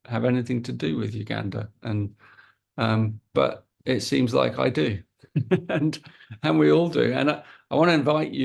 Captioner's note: chuckles